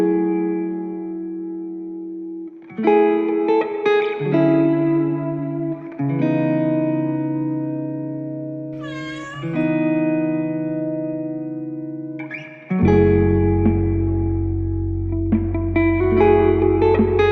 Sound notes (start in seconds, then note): 8.8 cat meowing